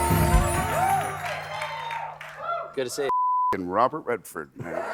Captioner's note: cheers and applause